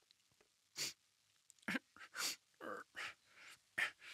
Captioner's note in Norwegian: Harald snufser